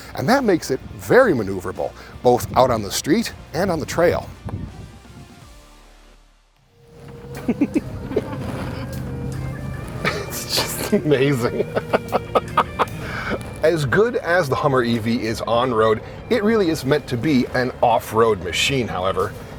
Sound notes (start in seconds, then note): 5.0 upbeat rock music; 7.0 chuckling; 11.5 laughing